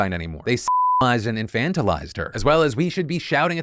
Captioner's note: beep